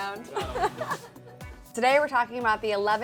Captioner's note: laughter